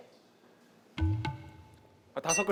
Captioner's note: thonking